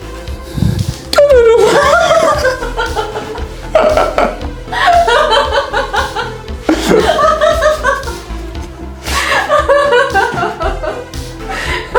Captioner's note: laugh